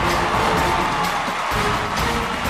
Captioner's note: cheers and applause